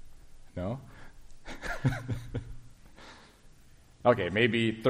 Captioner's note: laughs